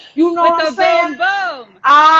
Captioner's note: laughing